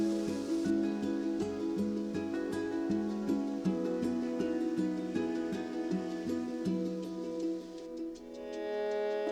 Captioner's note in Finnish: tuulen havina puissa